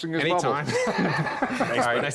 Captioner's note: laughter